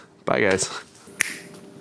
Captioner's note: finger snaps